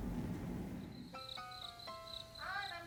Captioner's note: crickets